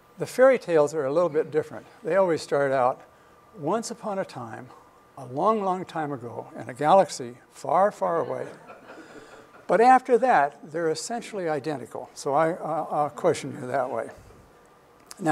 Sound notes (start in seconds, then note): 8.4 laughter